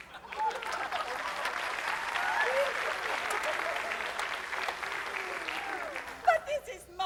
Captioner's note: applause